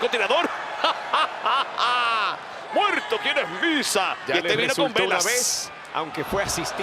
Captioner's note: laugh